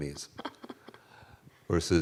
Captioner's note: laughing